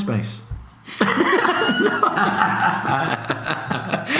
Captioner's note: laughs